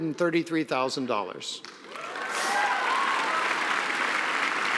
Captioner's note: applause